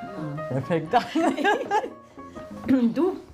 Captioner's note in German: Sie lachen